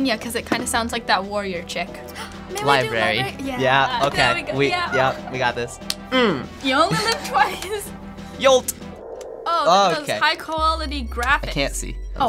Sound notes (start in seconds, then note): 2.1 gasps